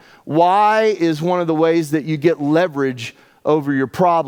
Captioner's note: none